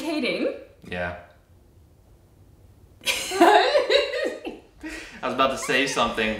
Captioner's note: laughing